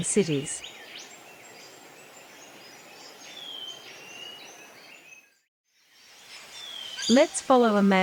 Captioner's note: birds sounds and chirps